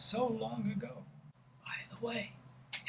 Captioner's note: whispering